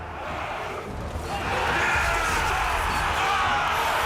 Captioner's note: army shouts